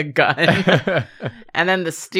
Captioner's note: laughs